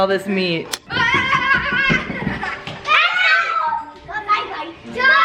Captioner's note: children yelling